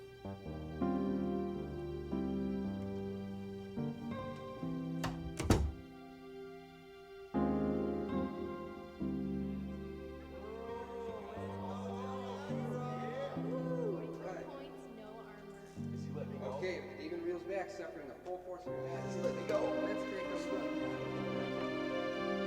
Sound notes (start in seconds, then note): 0.2 mellow music; 4.9 door thuds; 8.9 mellow music continues; 10.4 group chattering; 18.7 somber music